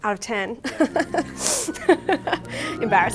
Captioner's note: laughs